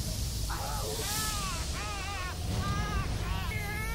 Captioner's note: growling; screaming